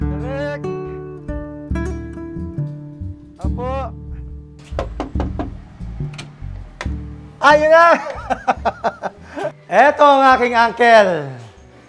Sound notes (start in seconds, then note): 7.5 joyfully laughs